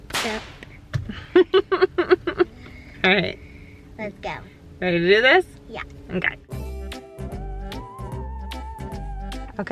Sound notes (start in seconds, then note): 1.1 laughing; 6.4 playful music